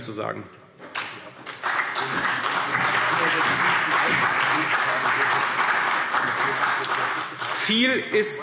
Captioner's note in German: Beifall CDU und BÜNDNIS 90/DIE GRÜNEN